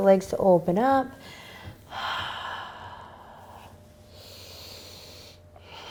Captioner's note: breathing heavily